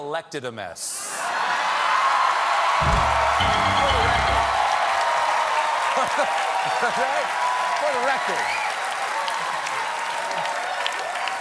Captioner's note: cheers and applause